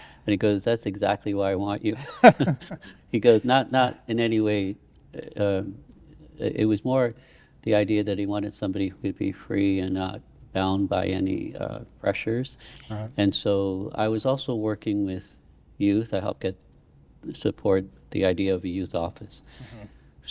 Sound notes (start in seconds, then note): 2.0 laughing